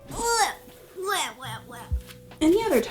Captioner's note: groaning